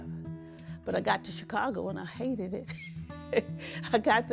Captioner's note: chuckles